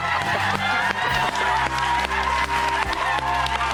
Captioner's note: cheering